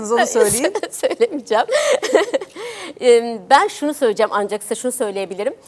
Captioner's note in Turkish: kahkaha